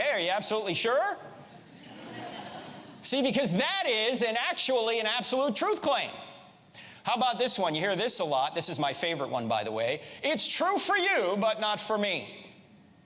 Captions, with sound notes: hey, are you absolutely sure? (audience laughs) See, because that is in actually an absolutely truth claim. How about this one, you hear this a lot. This is my favorite one, by the way. It's true for you but not for me.